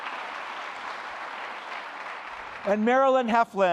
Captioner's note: applause